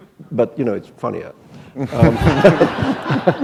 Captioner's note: laughter